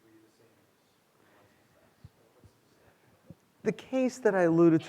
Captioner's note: student speaking faintly